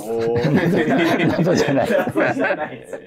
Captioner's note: laughing